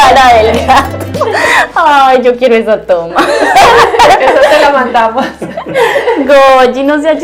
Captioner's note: laughs